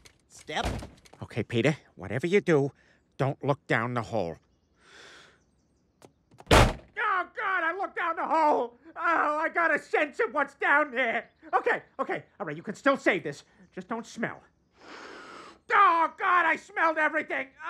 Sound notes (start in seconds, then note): 4.8 inhales; 6.4 door slams; 14.8 breathes in deeply